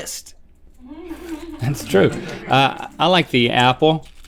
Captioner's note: crew chuckles